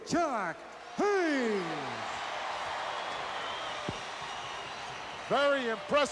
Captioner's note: audience cheering